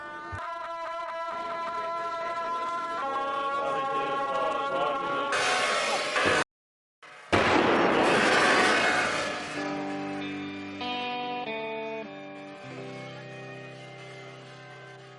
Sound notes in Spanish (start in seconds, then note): 7.3 disparo de cañón